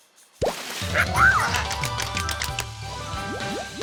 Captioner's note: clicking